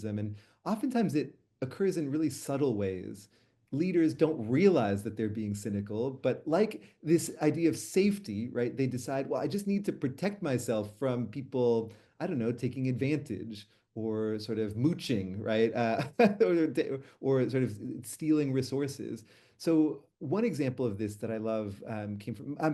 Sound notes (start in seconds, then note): 16.5 laughs